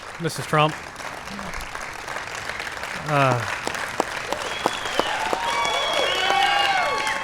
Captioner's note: applause